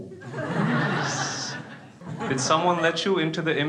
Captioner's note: crowd laughing